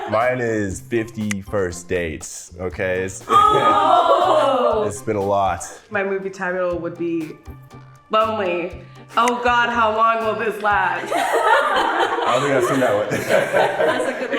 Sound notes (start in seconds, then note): 0.0 ladies laughing; 11.0 ladies laughing